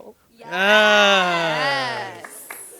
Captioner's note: affirmative cheers, snaps